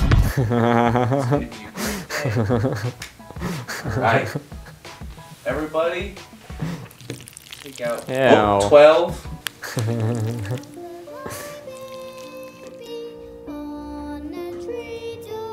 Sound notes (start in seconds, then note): 0.3 laughing; 9.2 laughing; 10.8 eating noises; 13.0 soft music